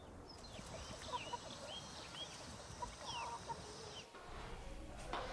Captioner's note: birds Chirping